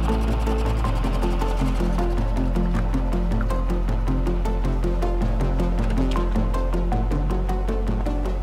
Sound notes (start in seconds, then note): 0.0 boat engine purring